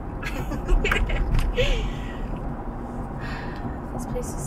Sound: Morgan laughs

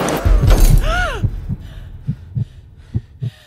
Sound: gasp

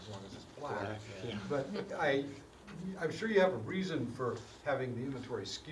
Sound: laugh

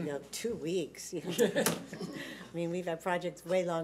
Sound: laughter

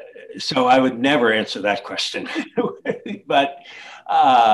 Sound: laughs

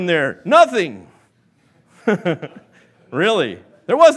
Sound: laughs

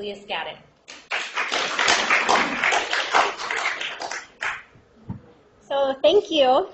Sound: applause

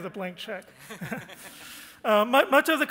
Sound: chuckles

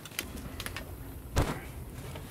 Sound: thud

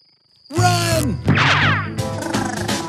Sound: monster chattering; gunshot firing; monster chattering

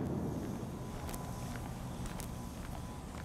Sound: footsteps

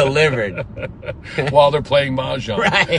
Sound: laughing

